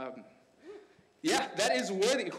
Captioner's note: man cheers